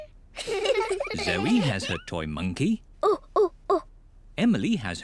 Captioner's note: hoots